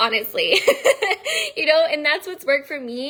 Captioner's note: laughing